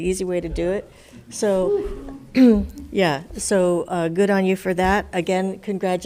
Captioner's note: clears throat